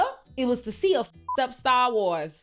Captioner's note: beep